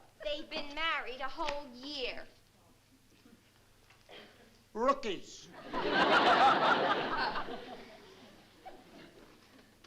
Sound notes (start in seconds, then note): 5.5 laughter